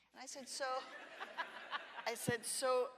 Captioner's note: all laugh